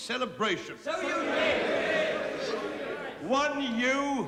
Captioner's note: shouting